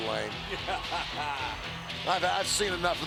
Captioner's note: laughs